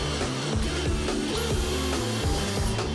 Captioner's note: Zischen